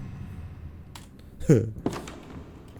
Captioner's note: chuckles